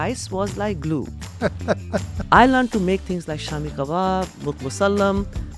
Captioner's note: laughs